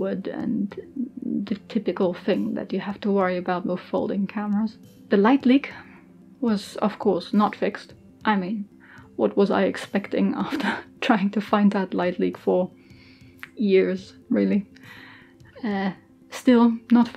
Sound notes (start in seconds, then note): 8.7 laughing